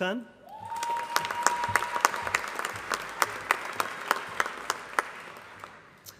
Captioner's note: applause